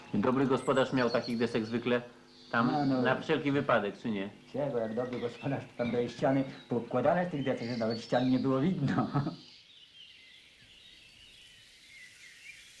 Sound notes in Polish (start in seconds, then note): 8.7 śmiech